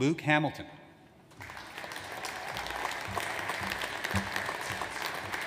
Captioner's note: audience applauds